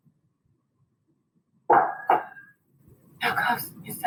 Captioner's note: knife clutters